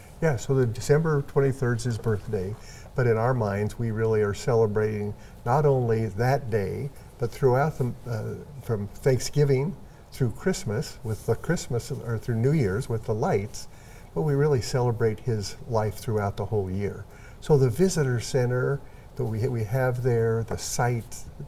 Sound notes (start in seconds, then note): none